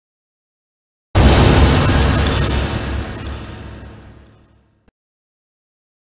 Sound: sound of ice blast

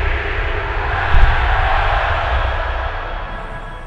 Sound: cheer

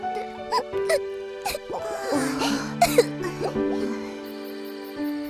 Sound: crying; crickets chirping

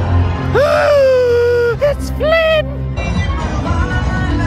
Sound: gasps; upbeat music

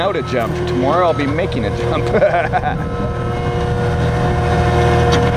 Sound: laughing

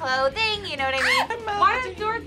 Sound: React screams

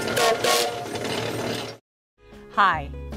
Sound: horn blows

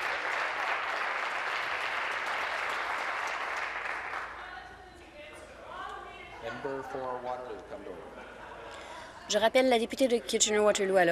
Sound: applause

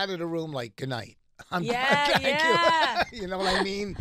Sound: laughing

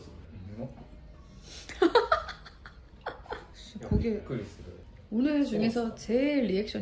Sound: laughs

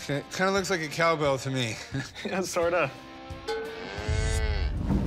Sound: cow moos

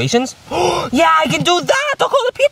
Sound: gasps

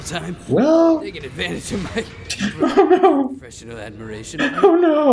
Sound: laughing

